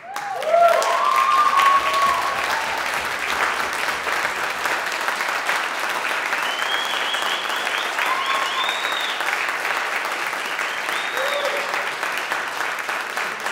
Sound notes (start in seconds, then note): 0.5 audience cheering and applauding